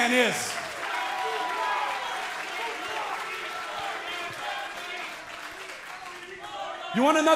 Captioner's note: cheers & applause